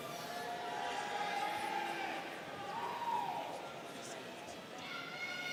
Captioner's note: students cheering